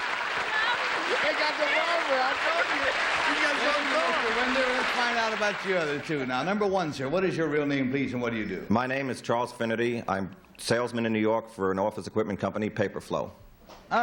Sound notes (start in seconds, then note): 0.0 applause; 3.7 chatter